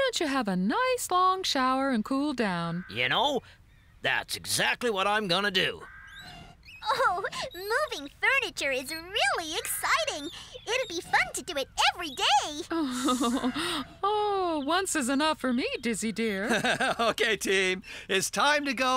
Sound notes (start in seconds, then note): 12.6 chuckling